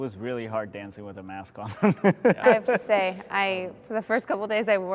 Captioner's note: laughs